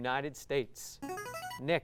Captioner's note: ringing